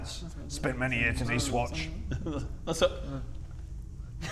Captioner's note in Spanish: Parloteo irrespetuoso en el fondo